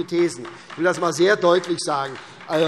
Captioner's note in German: Beifall